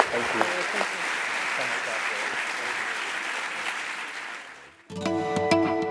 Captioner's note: applause